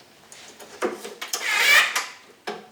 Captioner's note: drilling noise